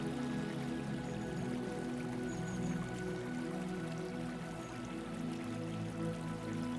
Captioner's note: water trickling